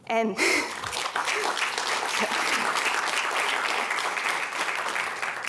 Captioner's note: applause